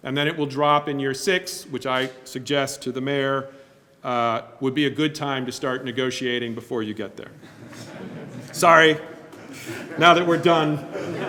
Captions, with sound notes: And then it will drop in year six, which I suggest to the Mayor, would be a good time to start negotiating before you get there. (group chuckling) Sorry! Now that we're done.